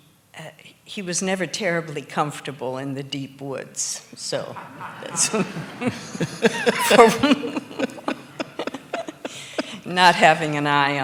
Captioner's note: laughs